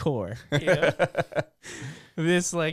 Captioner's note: laughs